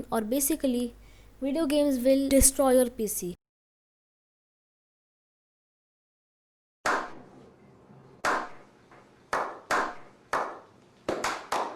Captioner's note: slow Clapping